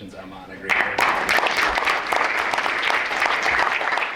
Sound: applause

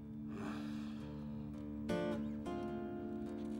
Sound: sighs

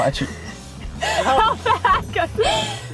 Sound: laughing

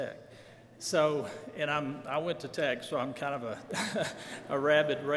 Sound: laughs

